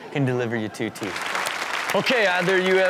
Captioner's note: audience clap